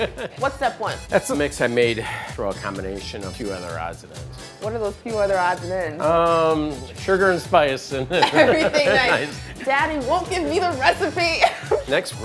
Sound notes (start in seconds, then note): 6.1 whispers